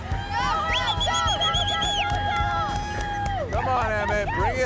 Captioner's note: cheering